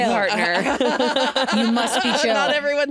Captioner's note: all laughing